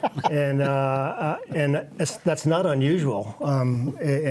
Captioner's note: laughs